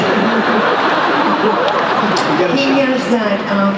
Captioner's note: laughter